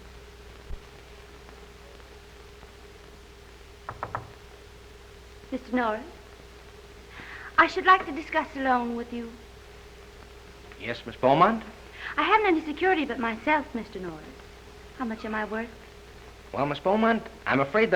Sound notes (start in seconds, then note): 3.9 tapping